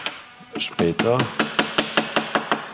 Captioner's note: hammering